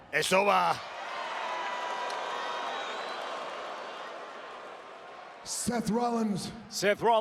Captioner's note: applause